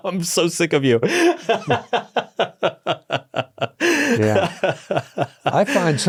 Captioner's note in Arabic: يضحك